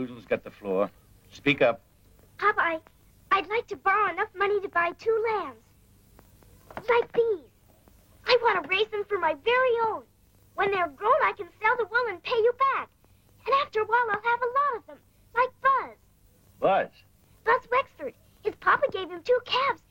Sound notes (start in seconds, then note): none